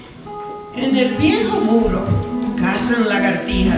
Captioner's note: speaking spanish